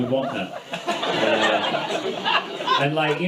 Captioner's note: audience laughs